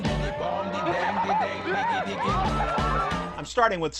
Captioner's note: bird noises